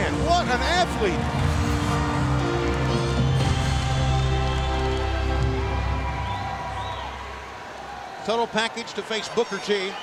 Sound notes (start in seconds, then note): 1.8 audience cheering; 1.8 dramatic music